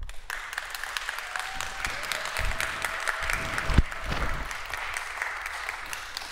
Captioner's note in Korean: 박수와 환호